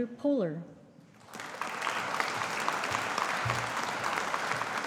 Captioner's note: audience applauding